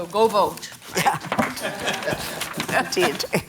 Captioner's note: laughter